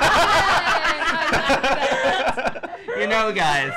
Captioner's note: laughs